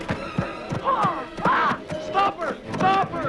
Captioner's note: Hundra shouts